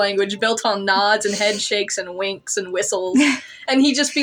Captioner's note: chuckle